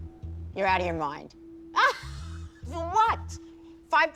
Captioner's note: laughs